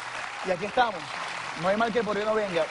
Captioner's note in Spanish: Aplausos